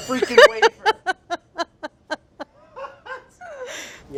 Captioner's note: laughing